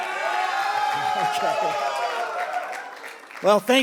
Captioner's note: cheers and applause